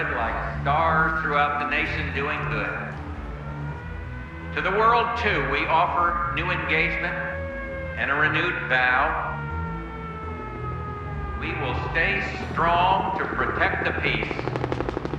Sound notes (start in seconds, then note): 9.7 sirens wailing; 14.9 helicopter rotors whirring